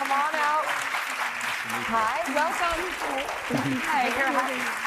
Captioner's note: applause